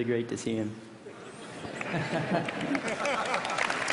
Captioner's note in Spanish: Risas; Aplausos